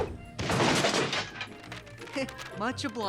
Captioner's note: thud